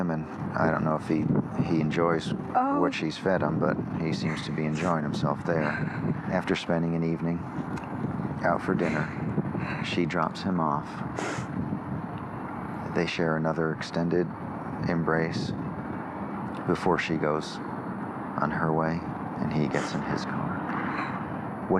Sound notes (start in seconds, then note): 11.2 sniffles